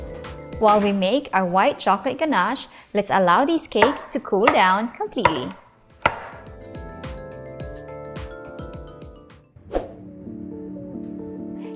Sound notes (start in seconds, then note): 0.0 oven door thuds; 7.7 cake pans thuds